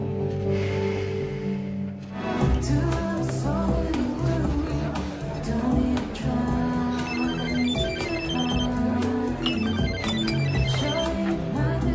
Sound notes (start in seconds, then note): 6.9 phone rings